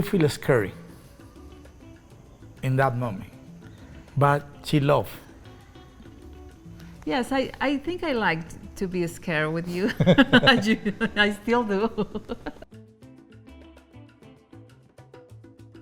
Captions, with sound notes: - And she feel scary in that moment. But she love. - Yes. I think I liked to be scared with you. I still do. (laughs)